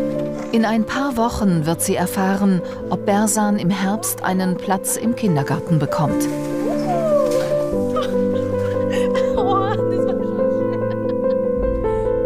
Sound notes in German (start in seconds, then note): 6.7 Freudenlaute; 9.0 Lachen